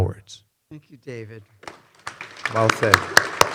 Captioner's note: audience applauding